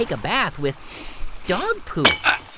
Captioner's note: sniffing